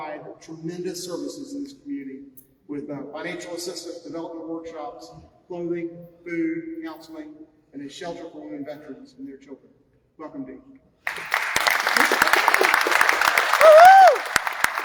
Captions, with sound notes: services in this community with financial assistance, development workshops, clothing, food, counseling and a shelter for women veterans and their children welcome Dee. Woo hoo (crowd cheering)